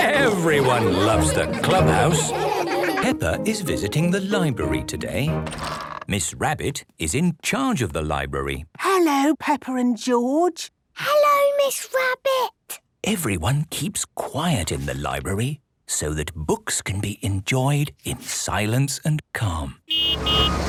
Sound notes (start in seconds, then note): 2.7 all laughing; 8.8 whispering